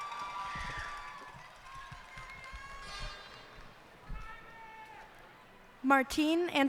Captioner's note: cheers and applause